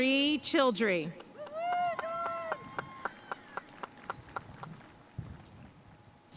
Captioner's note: audience cheering and applauding